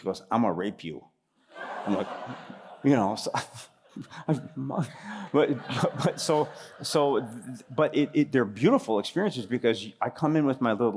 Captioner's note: laughter